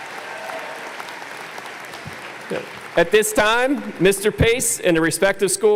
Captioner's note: applause